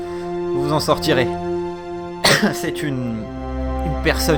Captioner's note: caughs